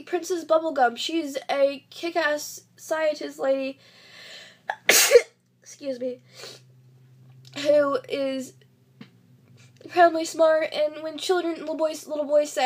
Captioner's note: sneezes